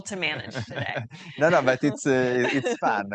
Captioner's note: panelists laughing